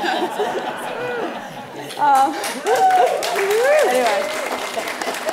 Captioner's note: laughing and applauding